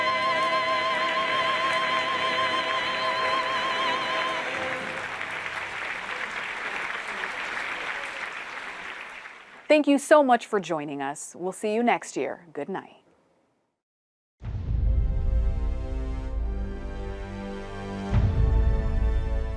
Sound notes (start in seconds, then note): 3.7 audience applauding; 17.1 pensive music